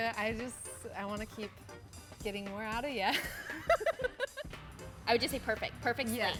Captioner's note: laughs